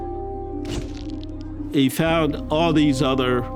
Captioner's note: shutter clicks